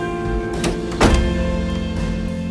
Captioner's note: door shuts